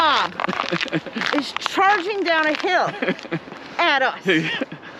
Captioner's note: laughs; laughs